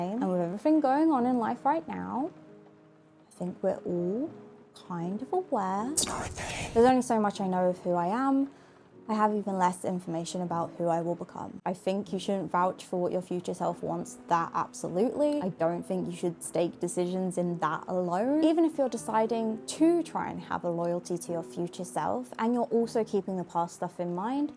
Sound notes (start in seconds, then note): 5.7 deep voice